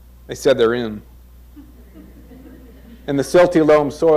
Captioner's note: crowd chuckles